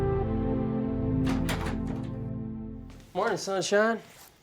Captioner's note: door opens